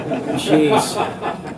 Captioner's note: laughter